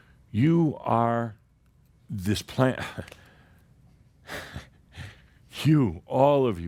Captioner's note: Adamus chuckles and sighs